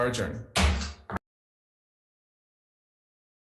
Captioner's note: gavel bangs